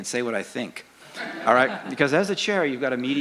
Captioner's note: laughter